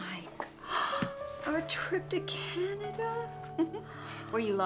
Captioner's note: gasps